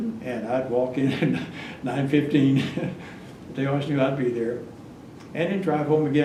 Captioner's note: laughs